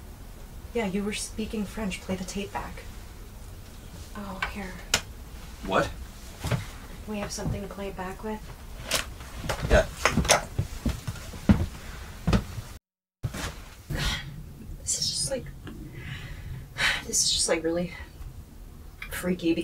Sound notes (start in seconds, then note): 10.3 pen clanking; 11.5 footsteps plodding; 14.1 Marla sighs; 15.7 sighs